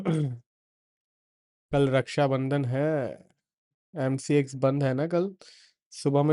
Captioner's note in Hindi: गला साफ़ करने की आवाज़